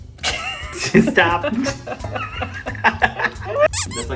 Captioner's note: cracks up